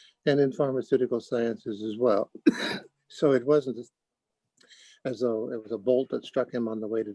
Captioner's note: cough